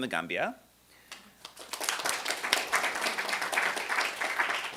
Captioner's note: applause